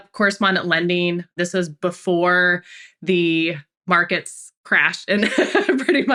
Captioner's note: laughs